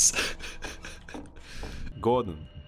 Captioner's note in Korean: 웃음